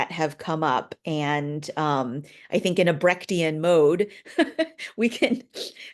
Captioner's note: chuckling